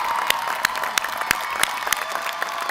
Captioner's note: applause